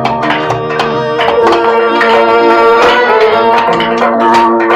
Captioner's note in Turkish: Taş ocağı ortam gürültüsü